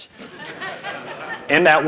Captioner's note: audience laughing